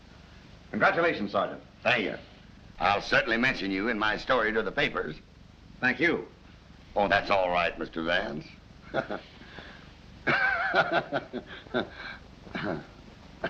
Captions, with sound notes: - Congratulations, sergeant. - Thank you. I'll certainly mention you in my story to the papers. - Thank you. - Oh, that's alright, Mr. Vance. [laughing]